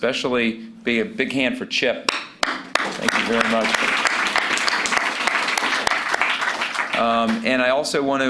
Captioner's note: applause